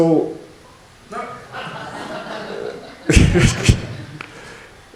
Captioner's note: laughter